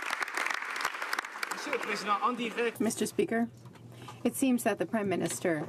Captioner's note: some Applause